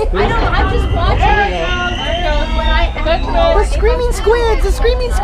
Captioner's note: machine starts